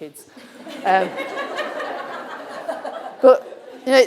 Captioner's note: audience laughing